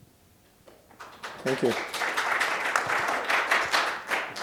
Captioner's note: applause